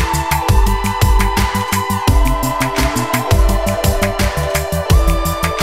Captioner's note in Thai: ปรบมือ; ปรบมือ